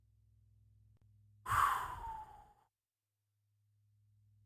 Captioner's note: sigh of relief